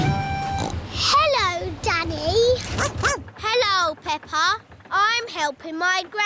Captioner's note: snorts; barks